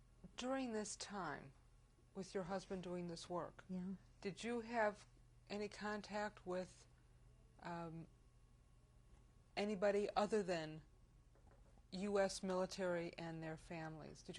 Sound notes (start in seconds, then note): 7.5 pauses for 3 seconds